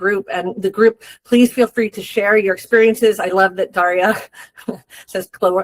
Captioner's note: chuckles